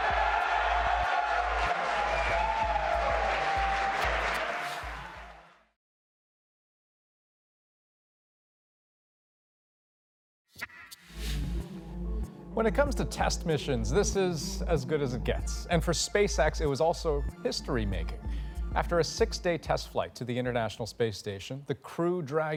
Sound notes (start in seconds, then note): 2.7 cheers and applause